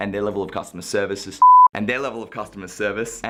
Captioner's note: beep